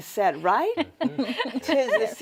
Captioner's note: panelists laughing